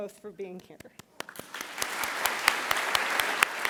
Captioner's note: applause